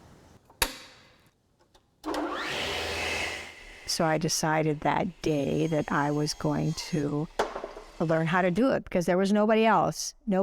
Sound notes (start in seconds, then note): 2.1 blade whirring